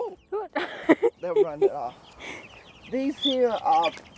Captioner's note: laughs